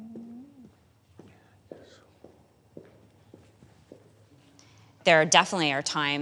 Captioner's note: footsteps clacking